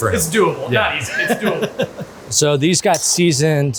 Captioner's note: videographer laughs